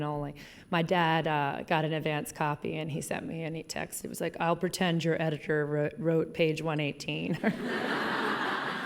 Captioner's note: laughing